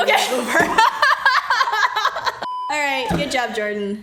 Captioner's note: laughs